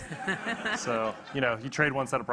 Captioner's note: audience laughing